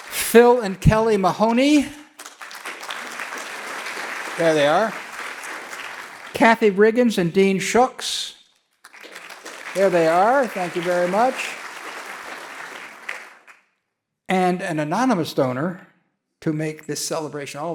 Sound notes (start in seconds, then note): 2.5 audience clapping; 8.5 audience clapping